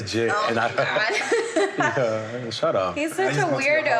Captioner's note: laughs